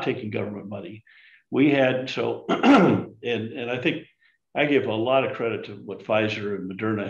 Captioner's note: clears throat